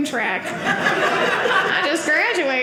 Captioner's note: audience laughing